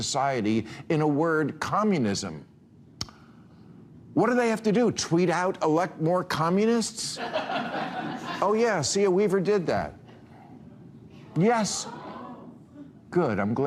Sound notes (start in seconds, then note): 7.2 audience laughing